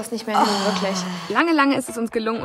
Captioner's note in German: Gurgelnde Laute